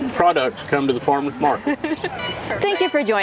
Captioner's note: laughs